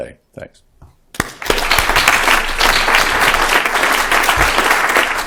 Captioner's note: applause